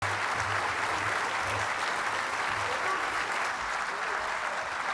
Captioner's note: audience applauding